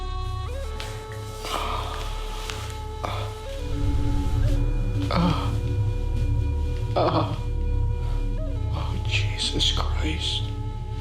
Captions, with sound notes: (Scott groaning) Oh, Jesus Christ.